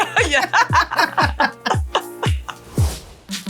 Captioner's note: both laughing